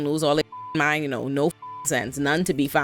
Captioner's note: beep